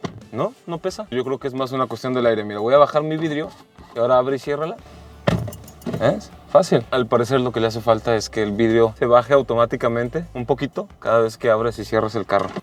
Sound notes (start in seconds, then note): 4.9 door shuts